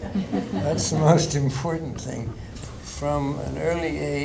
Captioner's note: laughter